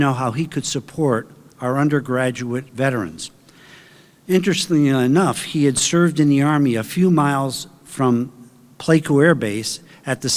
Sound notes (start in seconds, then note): none